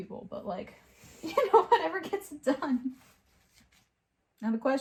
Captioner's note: laughs